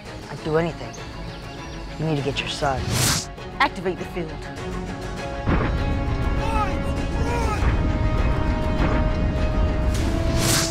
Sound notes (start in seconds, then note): 2.8 air whooshing; 5.5 bomb bangs; 7.7 bomb bangs